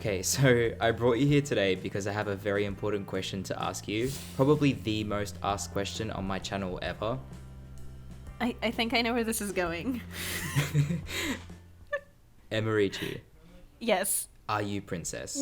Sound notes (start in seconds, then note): 10.1 both laugh